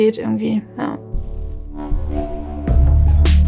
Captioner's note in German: Dröhnen; Rhythmische Musik